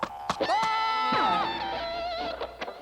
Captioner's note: coughing